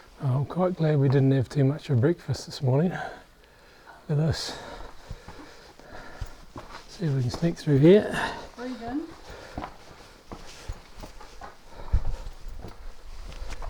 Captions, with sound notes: I'm quite glad we didn't have too much for breakfast this morning look at this see if we can sneak through here [breath in]